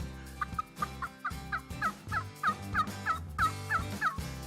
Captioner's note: turkey call yelps